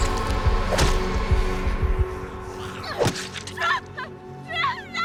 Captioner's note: bat thwacking